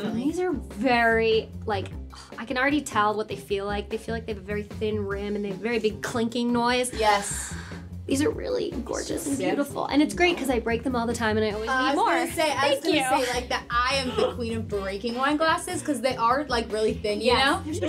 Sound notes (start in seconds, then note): 6.9 sighs